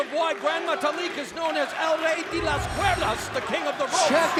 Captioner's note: speaks Spanish